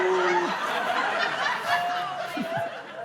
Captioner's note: laughter